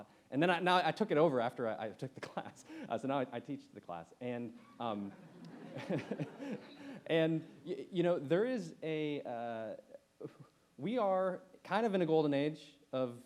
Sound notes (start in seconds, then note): 4.6 chuckles; 4.9 audience laughs